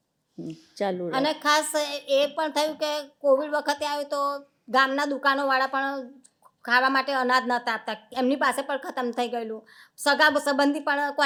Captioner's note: speaking gujarati